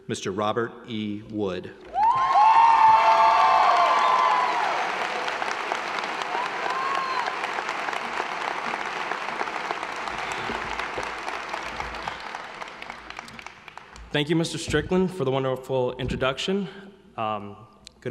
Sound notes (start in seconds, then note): 2.0 audience applauding; 2.0 audience cheering